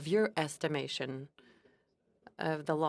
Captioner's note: speaking French